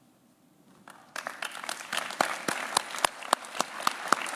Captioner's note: claps